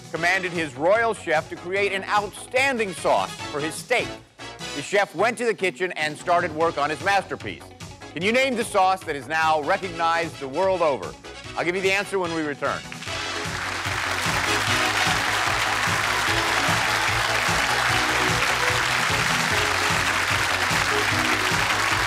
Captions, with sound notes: commanded his royal chef to create an outstanding sauce for his steak. The chef went to the kitchen and started work on his masterpiece. Can you name the sauce that is now recognized the world over? I'll give you the answer when we return. (applause) (upbeat music)